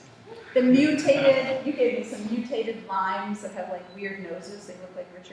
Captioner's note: laughter